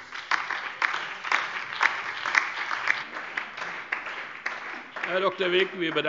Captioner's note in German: Beifall DIE LINKE, BÜNDNIS 90/DIE GRÜNEN und SPD